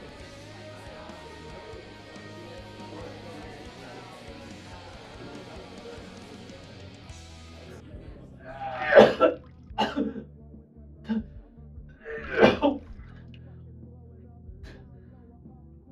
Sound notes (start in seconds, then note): 8.5 narrator retching over muffled rock music